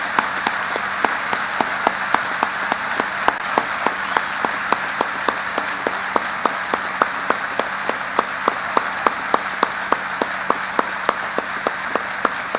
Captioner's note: applause